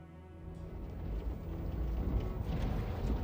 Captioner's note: vehicles approach